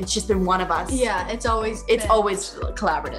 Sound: murmurs

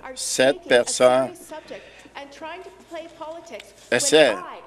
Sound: none

